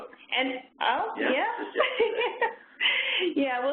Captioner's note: chuckles